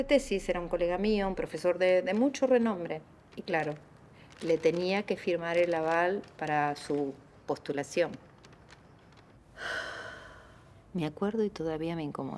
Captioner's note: sighs